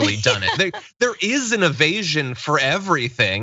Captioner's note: laugh